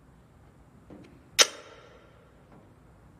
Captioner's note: click